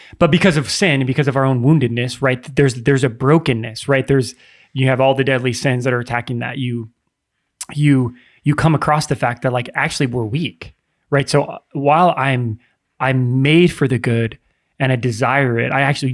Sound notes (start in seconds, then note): none